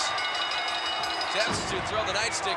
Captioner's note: bell rings